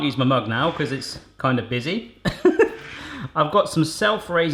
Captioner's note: laughing